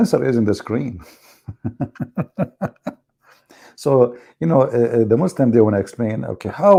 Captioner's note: Ketawa